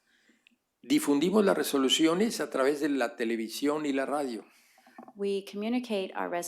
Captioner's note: speaking spanish